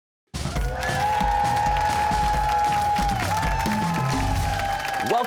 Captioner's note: cheers and applause